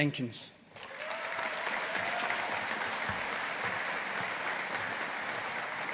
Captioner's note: audience applauding